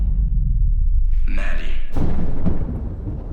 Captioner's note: thunder rumbles